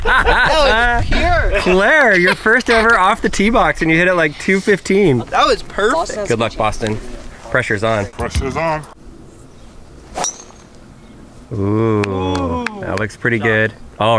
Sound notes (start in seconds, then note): 10.1 club clinks